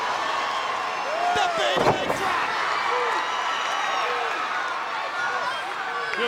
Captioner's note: crowd cheering